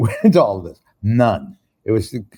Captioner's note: chuckles